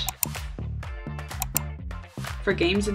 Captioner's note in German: Klicken